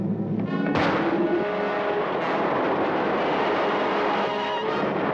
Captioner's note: Cody whooshes